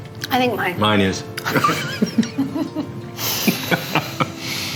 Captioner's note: laughing; uplifting music